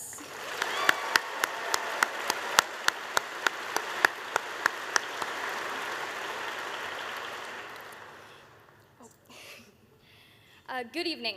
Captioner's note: applause